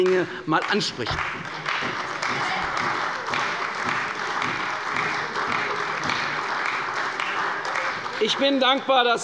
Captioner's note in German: Beifall bei Abgeordneten der CDU